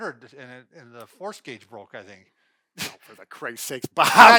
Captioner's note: laughs